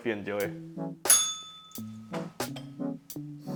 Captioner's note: bell rings